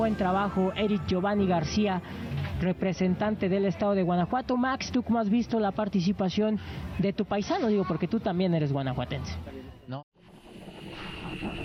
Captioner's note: spanish news